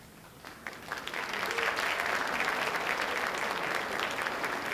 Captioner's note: audience applauding